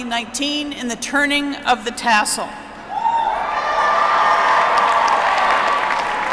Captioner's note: applause